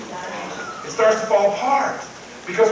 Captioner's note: crowd; Tony Robbins whistles